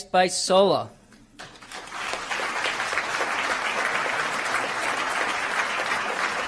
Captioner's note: applause